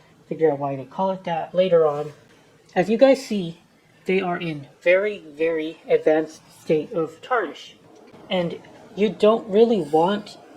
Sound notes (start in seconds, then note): none